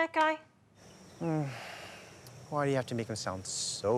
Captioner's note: sighs